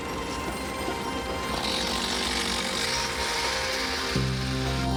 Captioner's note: motor revving